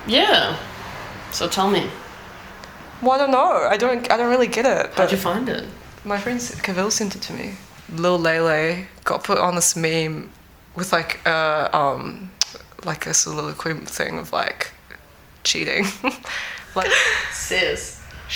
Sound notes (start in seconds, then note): 12.4 tongue clicks; 15.8 laughs